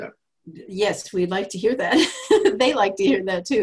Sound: laughs

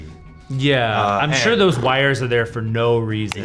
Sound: Anthony blows raspberries

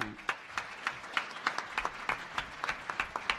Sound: applause

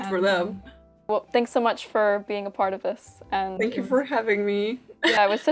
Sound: laughs

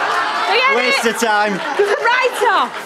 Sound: audience laughter

